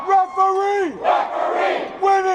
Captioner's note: crowd